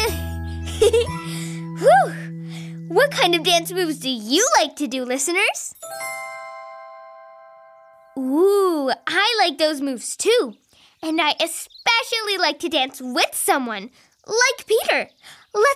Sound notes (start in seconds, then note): 0.6 giggles; 5.7 bells chiming